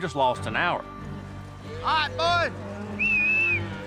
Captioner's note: whistles